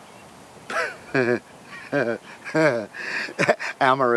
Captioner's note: Luke giggles